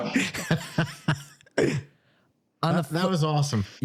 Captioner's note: laughing